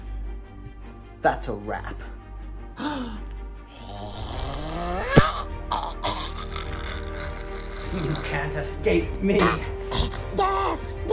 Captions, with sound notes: That's a wrap! (Choking noises) You can't escape me!